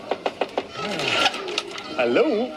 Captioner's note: door knocking